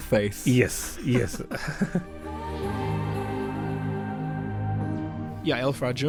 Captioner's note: voiceover